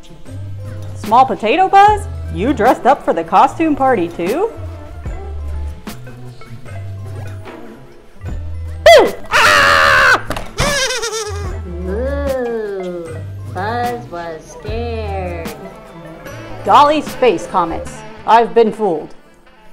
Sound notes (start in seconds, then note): 8.9 Buzz Screams; 10.6 alien Laughs